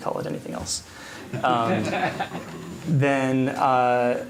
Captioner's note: laughter